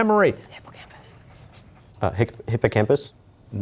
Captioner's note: whispering